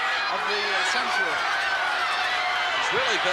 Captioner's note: crowd clamoring